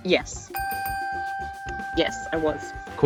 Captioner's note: dinging